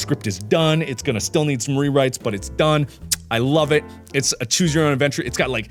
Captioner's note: kiss noise